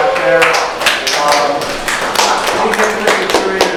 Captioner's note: audience clapping